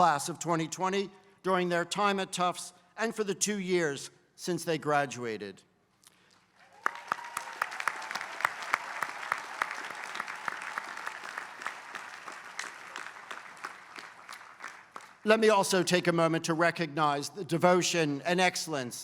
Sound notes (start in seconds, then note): 6.4 applause